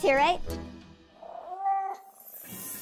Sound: Tigress meows, purrs

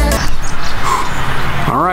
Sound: dad exhales

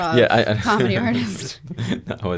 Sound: laughs

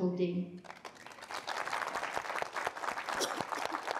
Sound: audience applause

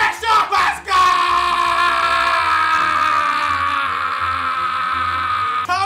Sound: screaming

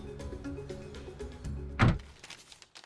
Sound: trunk slams

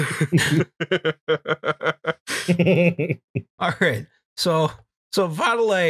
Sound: laughter

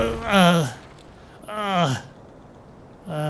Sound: gasping

